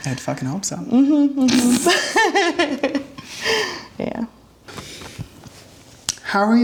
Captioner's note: laughing